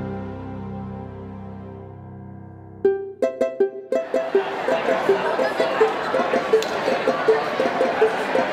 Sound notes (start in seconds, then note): 2.8 cheerful music; 4.1 distant chatter